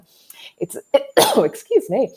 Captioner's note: coughs